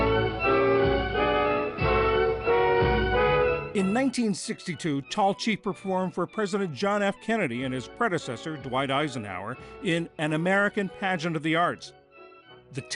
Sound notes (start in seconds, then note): 4.1 voice-over